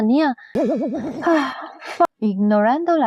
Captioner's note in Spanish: Suspiro